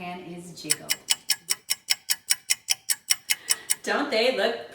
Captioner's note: clock ticking